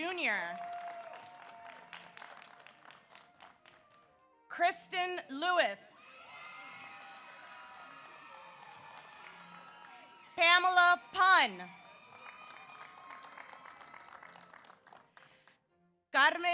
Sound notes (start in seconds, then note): 0.1 audience applauds; 0.3 audience cheers; 6.0 audience cheers; 6.0 audience applauds; 11.9 audience cheers